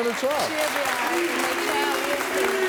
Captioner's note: booing